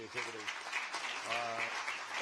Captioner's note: applause